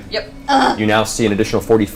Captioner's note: yells